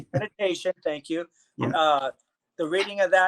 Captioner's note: chuckle